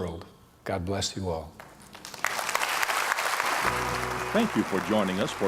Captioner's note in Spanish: aplausos